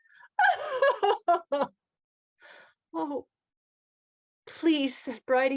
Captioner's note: laughter